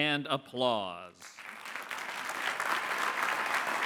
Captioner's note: clapping